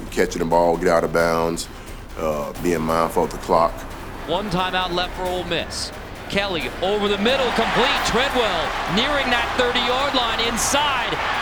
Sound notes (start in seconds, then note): 4.5 voiceover